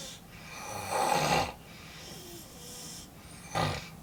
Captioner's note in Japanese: 鼻息